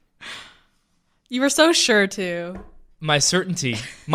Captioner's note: sighing